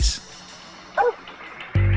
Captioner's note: dog barks